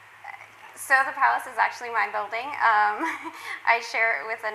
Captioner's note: laughs